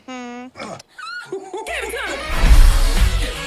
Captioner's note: laughter